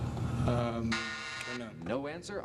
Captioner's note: buzzer beeps